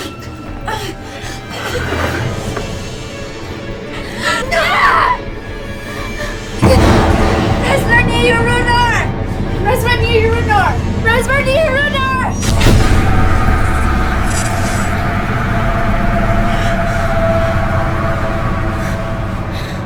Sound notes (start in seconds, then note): 0.1 dramatic music; 4.0 screaming; 7.1 speaking in foreign language; 12.5 dramatic music